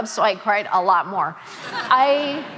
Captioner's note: audience laughing